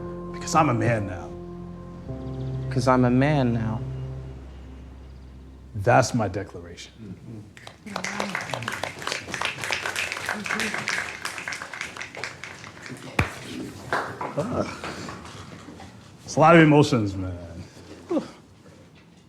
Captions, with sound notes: Because I'm a man now. Because I'm a man now. That's my declaration. [applause] It's a lot of emotions, man.